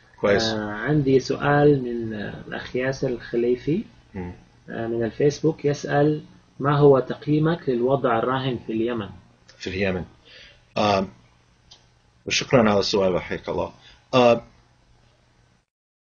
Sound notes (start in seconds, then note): 0.5 speaking Arabic; 10.2 speaking Arabic